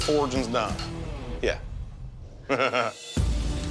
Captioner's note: chuckles; dramatic music